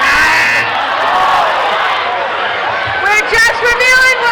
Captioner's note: buzzing